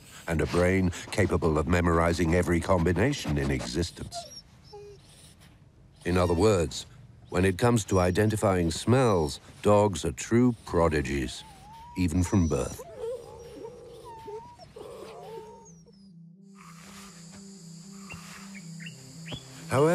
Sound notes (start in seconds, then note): 13.5 whimpering; 16.9 dramatic music